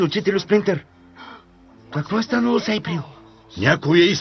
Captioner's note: gasps